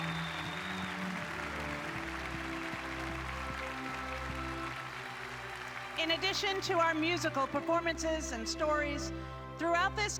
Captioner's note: applause